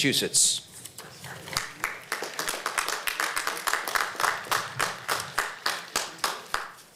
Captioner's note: applause